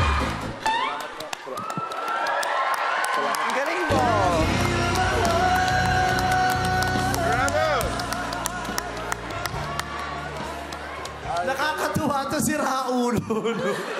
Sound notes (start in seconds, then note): 5.1 crowd cheering; 13.0 crowd laughing